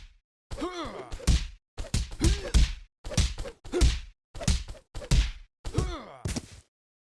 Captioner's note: grunting; somewhat rhytmical kicking and whooshing sounds; thud